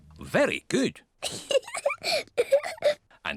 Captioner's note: laughs